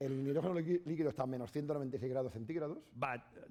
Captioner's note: speaking spanish